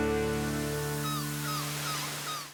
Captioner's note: seagulls chirping